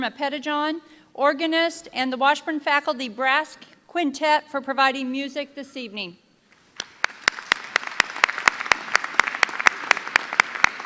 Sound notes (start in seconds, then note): 6.8 applause